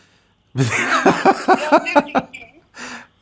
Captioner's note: laughs!